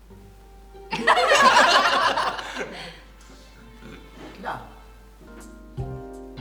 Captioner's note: everyone laughs